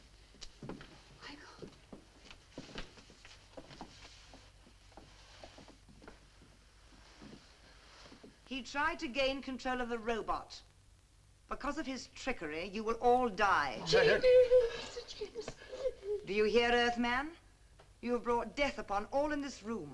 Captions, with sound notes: - He tried to gain control of the robot. Because of his trickery you will all die. (all exclaiming) Do you hear Earth man? You brought death upon all in this room.